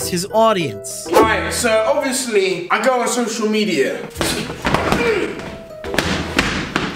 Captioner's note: grunts